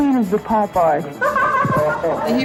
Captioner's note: people laugh